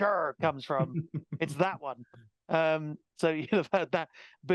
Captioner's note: laughing